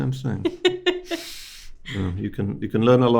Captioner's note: host laughing